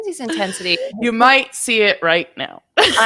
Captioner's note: laughing